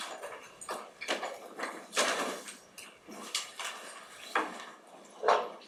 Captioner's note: objects clattering